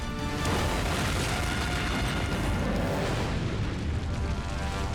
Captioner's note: explosion blasting